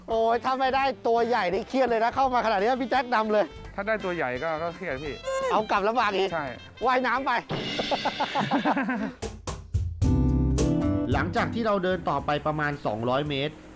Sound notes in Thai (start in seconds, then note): 7.7 เสียงหัวเราะ